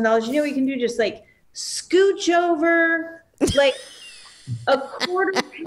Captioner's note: cackling